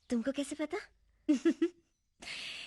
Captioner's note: chuckling